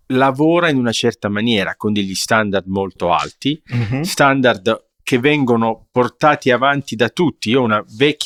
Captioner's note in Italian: schiarire la voce